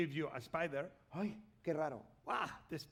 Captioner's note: speaking spanish